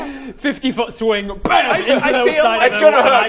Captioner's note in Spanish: bam